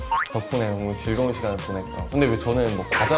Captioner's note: mhm!